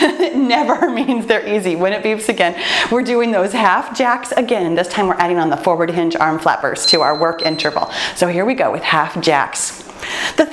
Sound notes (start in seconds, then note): 0.1 laughs; 6.8 timer beeps